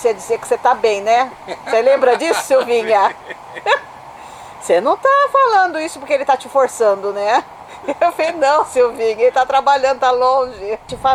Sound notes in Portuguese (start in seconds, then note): 4.8 risos